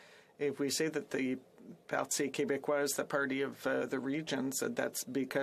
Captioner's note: speaking French